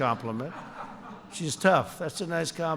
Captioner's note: laughter